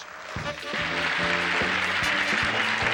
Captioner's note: audience cheers; theme music plays